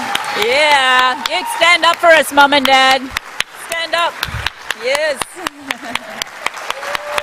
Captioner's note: cheering and applause